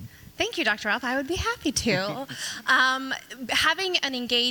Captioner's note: chuckles